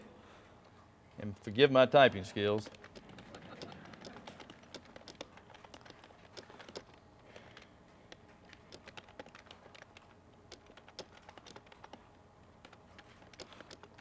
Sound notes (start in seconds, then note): 4.4 typing on keyboard